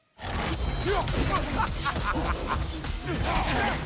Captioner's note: laughs